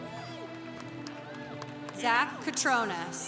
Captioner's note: congregation cheering